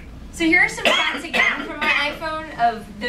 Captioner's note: speaking drowned out by coughing